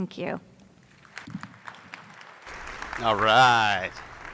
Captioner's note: attendees applauding